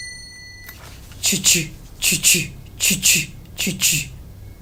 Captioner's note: A jingle bell; mimics rail sound